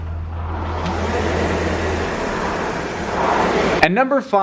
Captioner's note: machine whirring